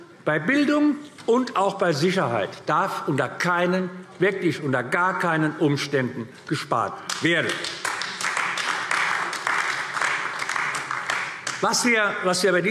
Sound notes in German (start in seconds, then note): 7.0 Beifall AfD